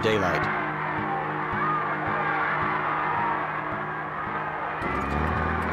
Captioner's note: crowds cheering